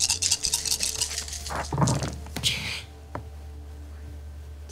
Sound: dice rattling

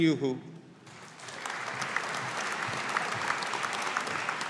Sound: audience applauding

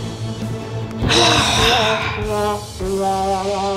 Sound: sigh; sad trumpet

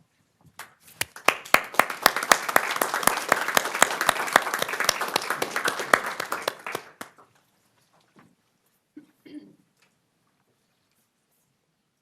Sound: applause

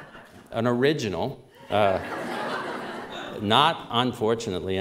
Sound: laughter; laughter

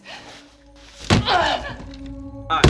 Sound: grunts in pain

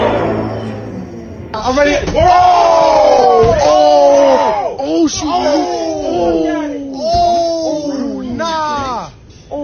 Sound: loudly clamoring

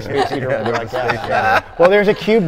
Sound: group laughing

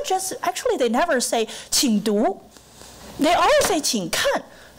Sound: foreign langauge; foreign language

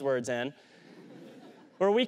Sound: laughter

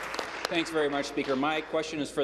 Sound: applause

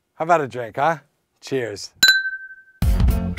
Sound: sound of glasses tapping

